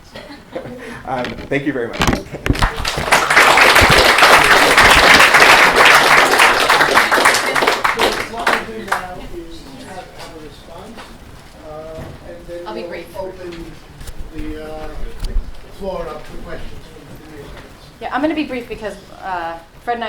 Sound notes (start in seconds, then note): 2.5 applause